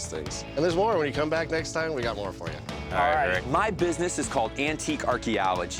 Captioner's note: none